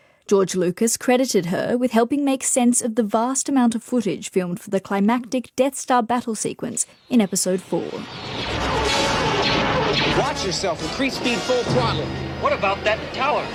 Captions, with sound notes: George Lucas credited her with helping make sense of the vast amount of footage filmed for the climactic Death Star battle sequence in episode four. [lasers firing] Watch yourself. Increase speed full throttle. What about that tower?